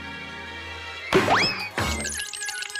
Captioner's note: gavel bangs